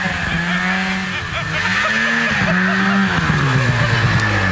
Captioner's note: laughter